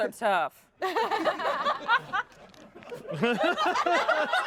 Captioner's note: everyone laughs